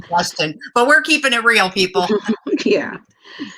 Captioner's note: laughter